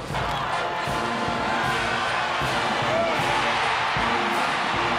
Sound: cheering

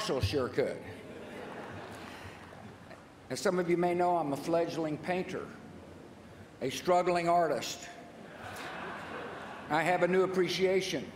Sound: laughter

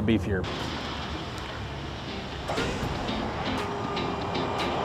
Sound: hydraulics being operated

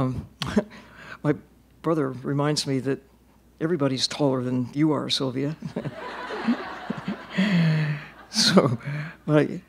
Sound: laughter

